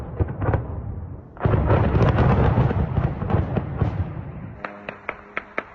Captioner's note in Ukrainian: вибух; канонада